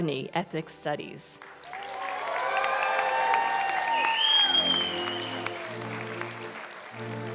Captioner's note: applause and cheering